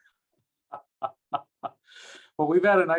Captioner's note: laughing